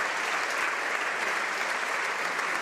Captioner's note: speaking French; applause